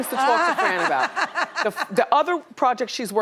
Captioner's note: laughs